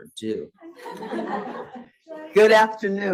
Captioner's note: students laugh